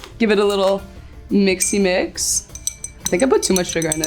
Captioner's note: glass clinks